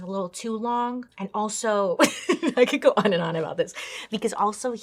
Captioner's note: laughs